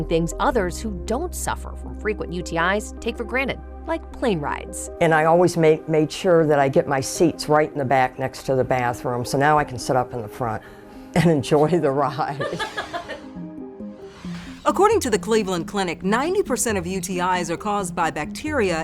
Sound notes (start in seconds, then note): 12.4 laughs